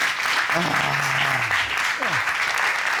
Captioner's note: judge sighs